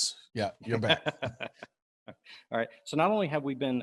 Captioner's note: laughs